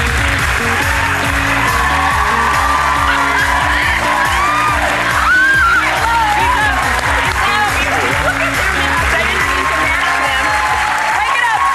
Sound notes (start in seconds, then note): 0.2 audience clapping; 0.2 upbeat music; 1.7 audience cheering; 5.0 squealing; 6.7 applauding